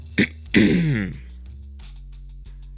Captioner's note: ahem